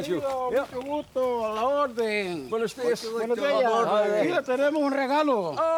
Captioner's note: rangers speak in foreign language